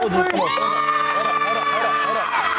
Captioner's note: cheering